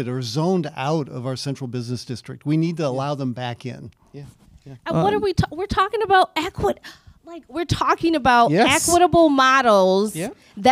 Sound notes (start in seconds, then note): 6.8 sighs